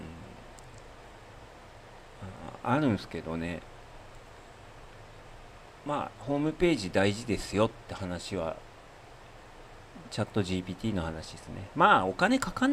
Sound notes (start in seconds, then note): none